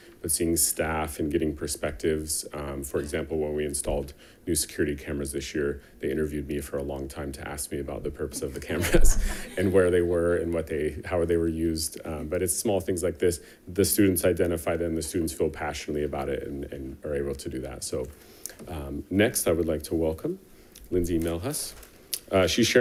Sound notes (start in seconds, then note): 8.4 attendants laughing; 8.4 laughs